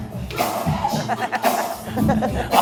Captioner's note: laughing